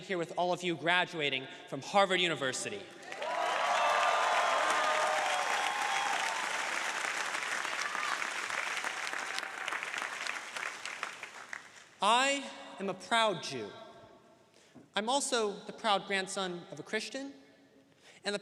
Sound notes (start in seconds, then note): 3.5 crowd applauding